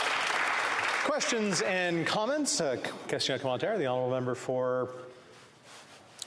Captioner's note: applause